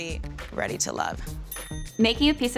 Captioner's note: bell dings